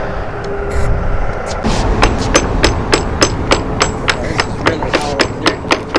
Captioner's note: hammer tapping